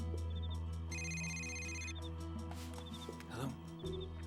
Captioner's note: cell phone rings